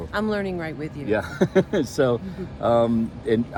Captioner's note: laughing